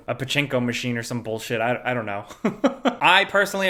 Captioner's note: chuckles